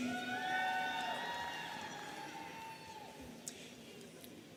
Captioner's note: students cheering